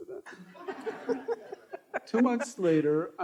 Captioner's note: all laughing